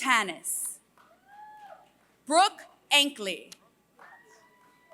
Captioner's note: applause